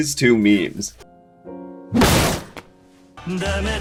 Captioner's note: Kiryu slams a table